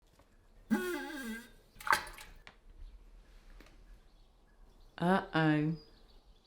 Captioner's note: toilet Noise